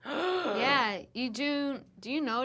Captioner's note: gasps